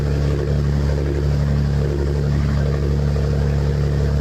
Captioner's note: boat engine rattles